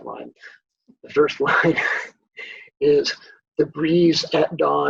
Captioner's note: laughs